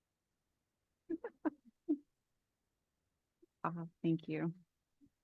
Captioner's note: laughing